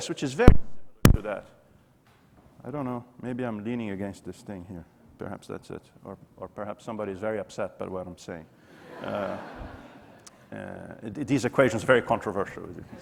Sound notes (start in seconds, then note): 8.8 audience laughing